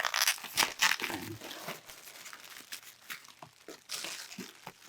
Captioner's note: tape squeaking